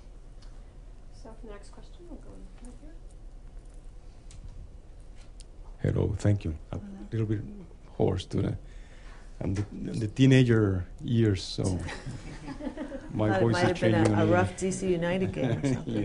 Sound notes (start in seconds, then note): 11.8 laughter